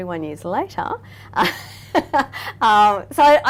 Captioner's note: laughing